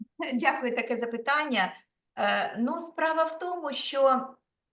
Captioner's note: speaking Ukrainian